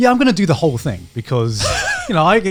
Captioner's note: chuckles